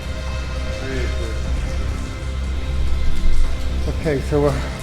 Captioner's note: water trickling